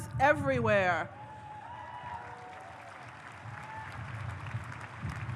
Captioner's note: audience cheers